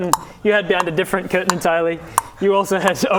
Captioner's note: berry eating noises